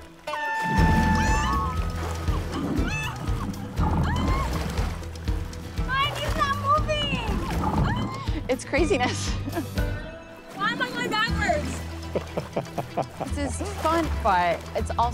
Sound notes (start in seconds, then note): 0.2 horn blares; 1.9 women exclaiming; 4.9 lively music; 9.6 laughs; 12.0 laughing